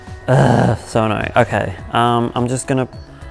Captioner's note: groans